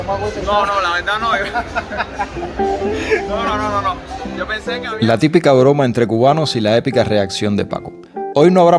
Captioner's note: laughs